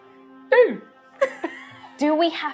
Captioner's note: untroubled beep